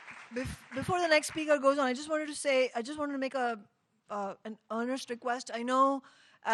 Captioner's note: applause